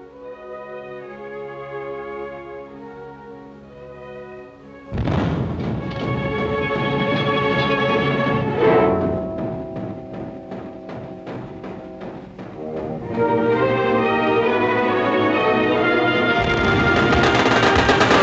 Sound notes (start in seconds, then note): 4.9 explosion; 16.4 rapid gunfire